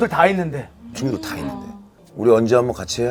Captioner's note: haha